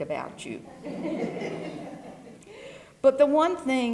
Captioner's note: laugh